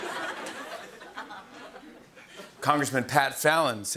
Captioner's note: laughter